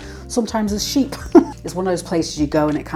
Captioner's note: laugh